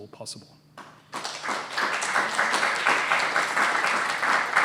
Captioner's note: applause